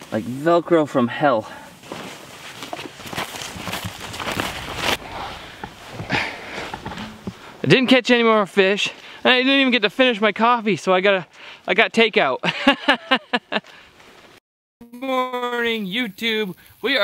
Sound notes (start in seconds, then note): 13.8 laughs